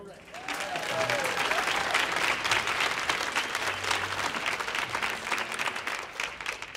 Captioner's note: audience applauding; audience cheering